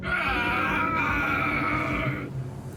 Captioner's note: screaming